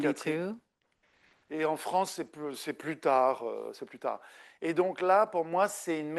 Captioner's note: speaking French